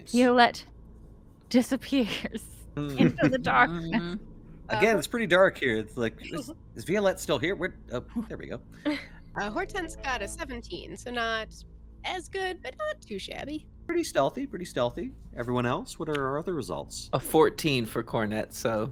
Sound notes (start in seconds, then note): 2.8 chuckles; 8.8 Violette chuckles